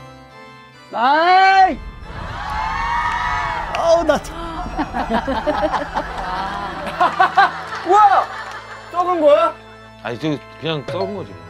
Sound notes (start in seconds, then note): 6.7 laughing